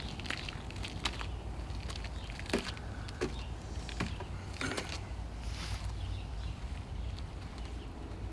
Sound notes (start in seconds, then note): 4.4 clears throat, sniffs